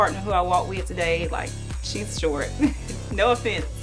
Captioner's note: laughs